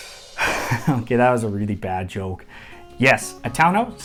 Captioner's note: drum rolls; chuckles